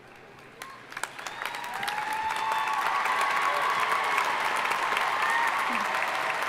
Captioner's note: audience cheering and applauding